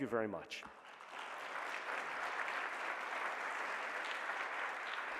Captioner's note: applause